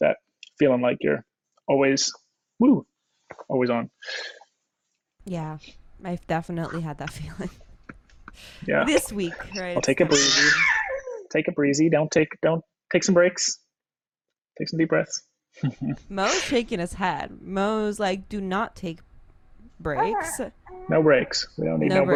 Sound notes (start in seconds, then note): 8.4 laughs; 10.1 scream; 16.1 laughs